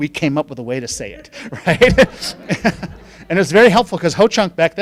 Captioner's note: laughing